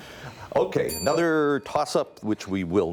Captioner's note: ding